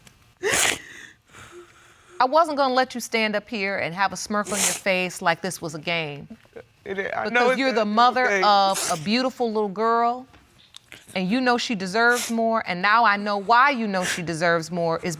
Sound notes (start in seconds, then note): 0.5 crying